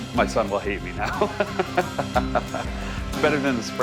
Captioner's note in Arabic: ضحك